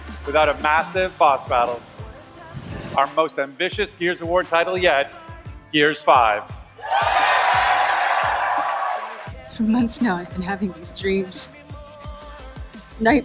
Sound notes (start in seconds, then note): 6.8 audience cheers